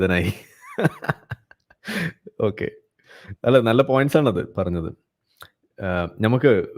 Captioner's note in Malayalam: പൊട്ടിച്ചിരി